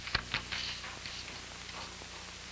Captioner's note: none